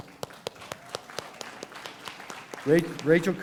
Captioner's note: applause